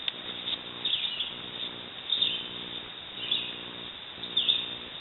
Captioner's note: bird chirping